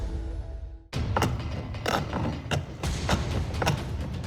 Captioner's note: sawing